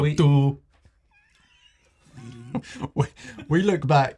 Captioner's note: both laugh